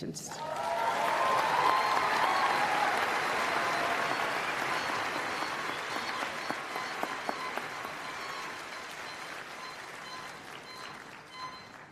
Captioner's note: applause